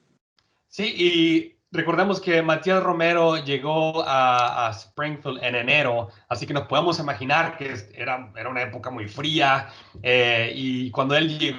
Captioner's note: speaking Spanish